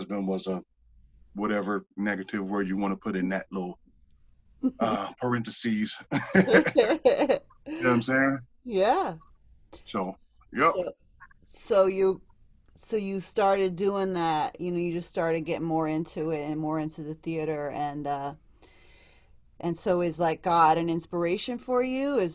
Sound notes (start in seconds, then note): 6.0 laughter